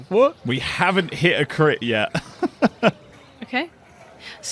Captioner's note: laughs